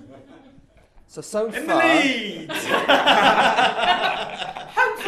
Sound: laughter

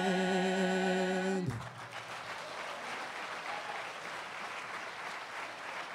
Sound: applause

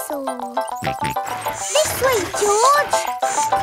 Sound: george snorts

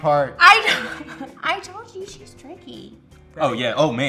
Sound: laughs

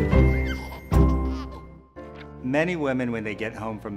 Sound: baby giggle

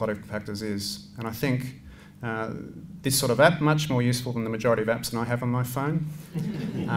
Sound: laughter

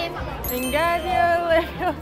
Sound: bell chiming

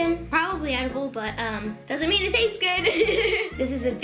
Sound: laughs

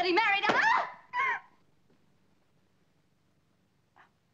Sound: screams

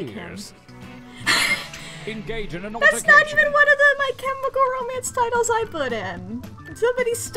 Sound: wheezes

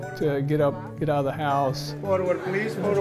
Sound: chatter

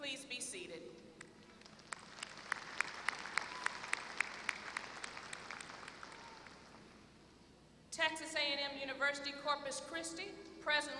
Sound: applause

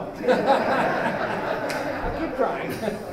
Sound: laughter

